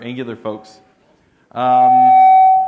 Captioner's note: microphone feedback